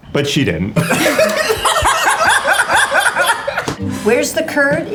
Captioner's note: all laugh